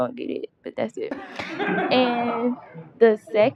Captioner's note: laughter